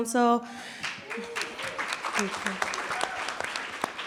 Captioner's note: audience clapping